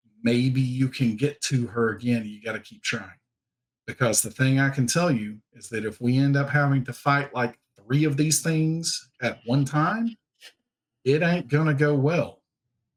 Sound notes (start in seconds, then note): none